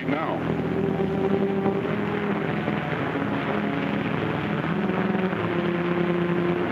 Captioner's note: tense brooding music; water splashes